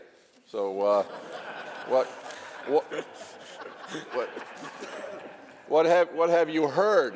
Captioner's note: laughter